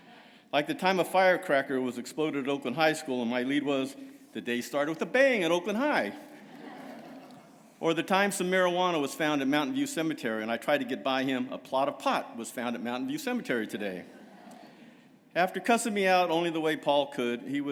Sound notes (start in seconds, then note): 6.2 laughter